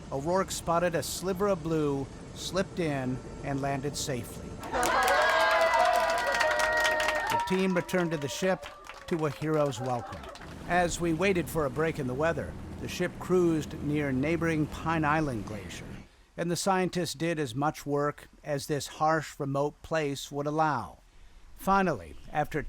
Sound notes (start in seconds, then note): 4.6 cheering